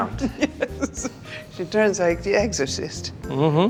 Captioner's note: laughs